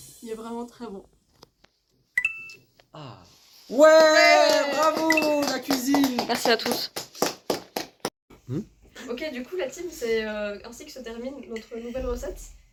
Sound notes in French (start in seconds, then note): 3.8 applaudissements